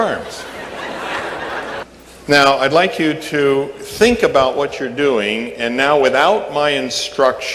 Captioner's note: laughter